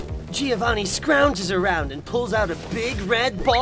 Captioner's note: none